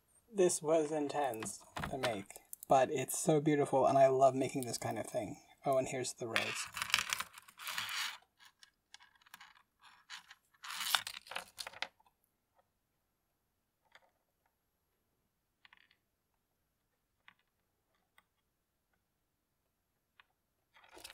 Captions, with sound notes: This was intense to make, but it's so beautiful, and I love making this kind of thing. Oh, and here's the rose. [beads clicking on desk]